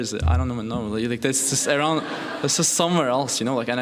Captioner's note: laughing